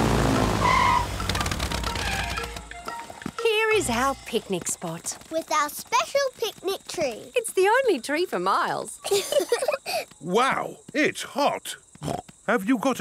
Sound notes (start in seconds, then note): 0.0 tires screeching; 9.0 laughing; 11.9 snorts